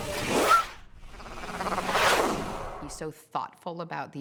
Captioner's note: whooshing